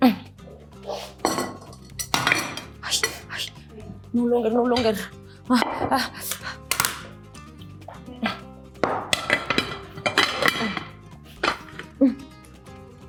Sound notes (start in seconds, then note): 0.0 grunts; 2.9 whispers in Spanish; 5.7 pants; 8.8 plate clatters